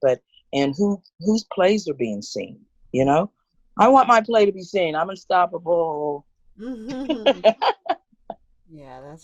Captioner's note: laughter